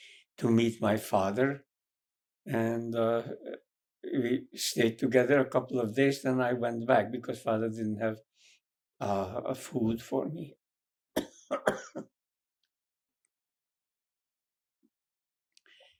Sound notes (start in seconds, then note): 11.2 coughing; 12.2 pauses 8 seconds